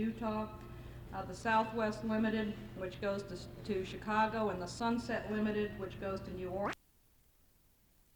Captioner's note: camera noise; no audio